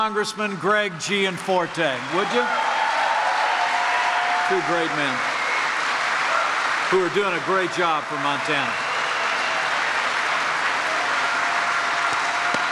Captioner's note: applause